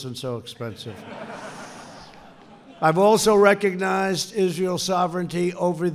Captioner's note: laughter